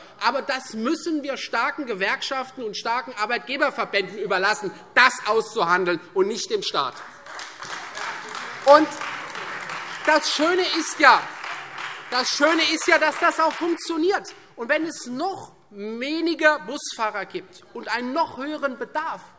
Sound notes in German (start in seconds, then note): 6.9 Beifall Freie Demokraten und CDU